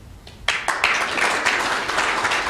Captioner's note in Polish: oklaski